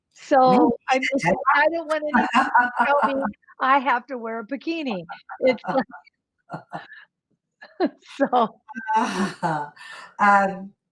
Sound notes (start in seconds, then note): 2.0 laughs; 5.0 laugh